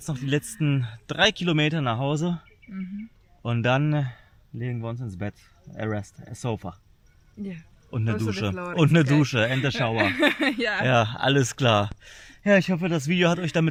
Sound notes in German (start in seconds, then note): 9.4 gelächter